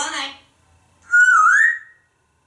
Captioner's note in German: whistling